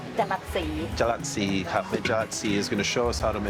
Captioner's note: speaking Thai